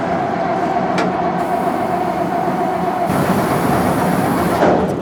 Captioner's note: spraying